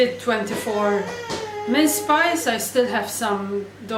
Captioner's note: child crying